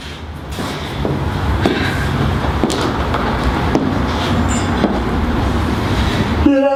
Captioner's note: sounds of footsteps